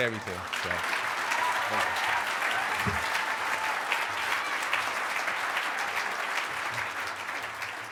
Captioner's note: clapping